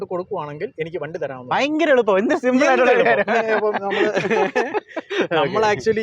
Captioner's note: laughing